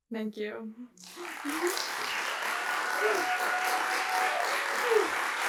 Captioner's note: applause